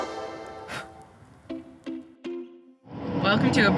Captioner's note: blowing